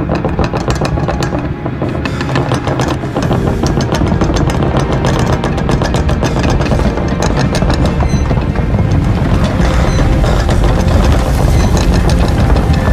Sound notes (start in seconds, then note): 8.3 light bulb hissing